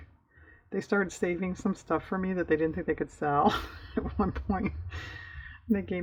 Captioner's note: laughs